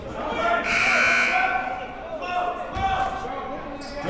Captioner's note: buzzer blares